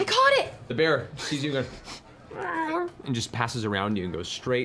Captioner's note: gasps; bear cub sounds